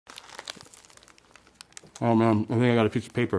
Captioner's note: burger crunching